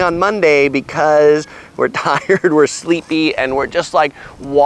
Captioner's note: laughs